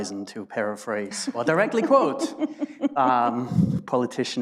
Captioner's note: laughs